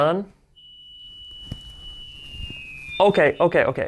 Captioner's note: high-pitched sound